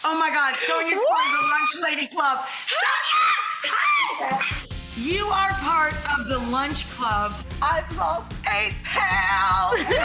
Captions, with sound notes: Oh my God, Sonya, from the Lunch Lady Club. (squealing) Sonya, hi. You are part of the lunch club. (singing) I've lost eight pounds.